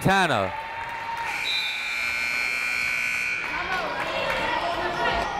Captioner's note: buzzer blaring